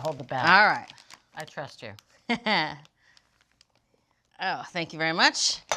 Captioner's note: laughing